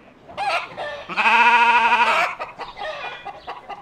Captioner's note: mowing & Cackling